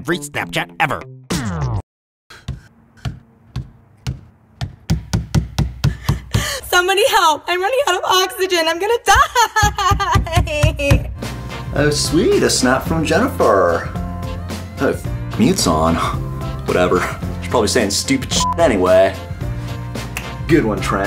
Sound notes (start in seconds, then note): 3.0 banging; 9.2 whimpers